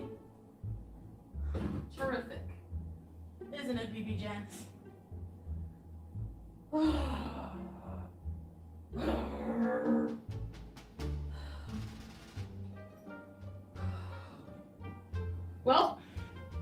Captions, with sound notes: terrific. Isn't it, BiBi Jen? (groans) (growls) Well,